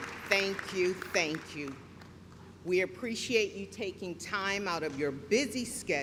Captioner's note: clapping